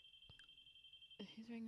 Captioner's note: phone rings